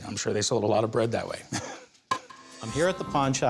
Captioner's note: laughs